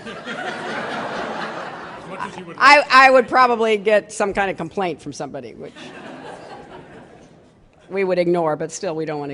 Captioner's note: laughter